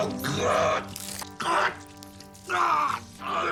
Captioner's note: gurgling